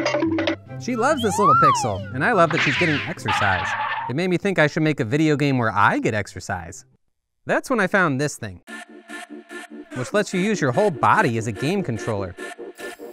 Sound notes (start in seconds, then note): 0.0 cartoon running sound; 2.2 tire skid; 9.8 upbeat electronic music